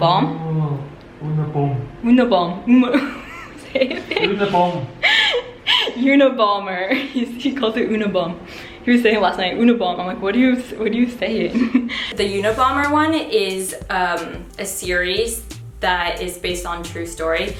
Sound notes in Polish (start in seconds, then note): 2.9 chichot; 5.1 śmiech